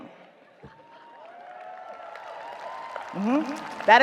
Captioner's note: audience cheers, applauds